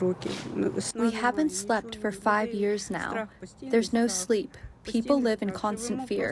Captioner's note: through translator